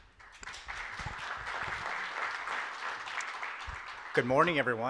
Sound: audience applauds

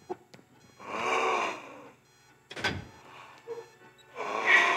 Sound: Donald gasps

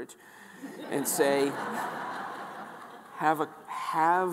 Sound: audience laughing

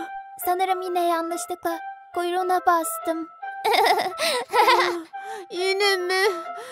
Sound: laughing

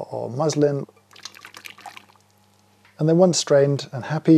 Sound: mixture pouring

